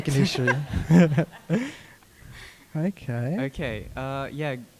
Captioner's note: all chuckling